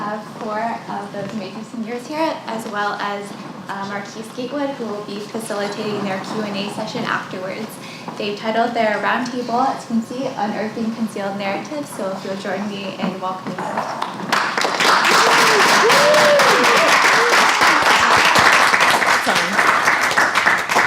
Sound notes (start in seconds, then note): 14.0 applause